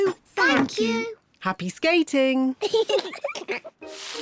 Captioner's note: giggles